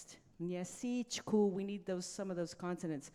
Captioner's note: speaking in a foreign language